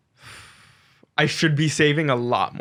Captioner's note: sighing